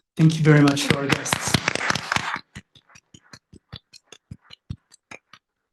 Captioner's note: applause